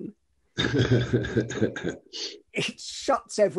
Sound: laughs

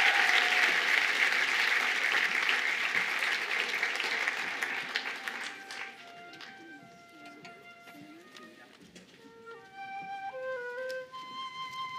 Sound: cheers and applause

